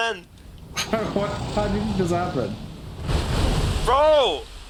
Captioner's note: laughs